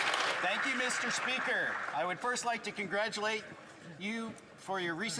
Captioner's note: some Applause